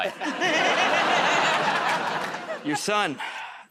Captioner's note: laughter